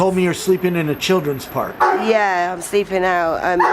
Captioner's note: barking continues